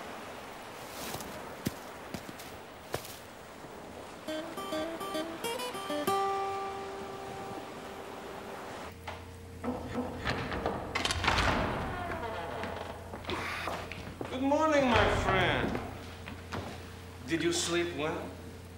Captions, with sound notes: (light guitar music) (door opening) - Good morning, my friend. Did you sleep well?